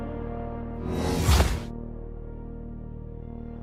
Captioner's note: Portal noise plays as Fort enters Ghosthaven